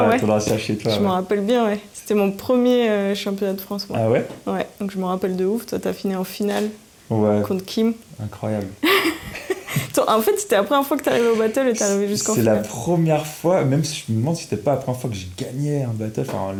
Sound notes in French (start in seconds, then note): 8.8 Rires